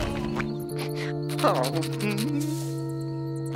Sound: whimpering

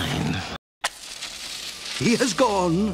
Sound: lighting Noises

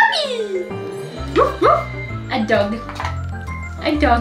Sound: barks. A dog!

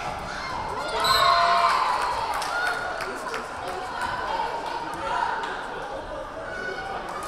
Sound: crowd cheering; whistle blaring

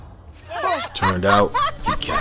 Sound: laughing

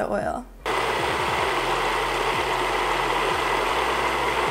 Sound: blitzer whirring

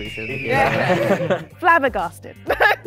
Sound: laughing

